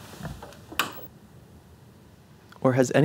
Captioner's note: click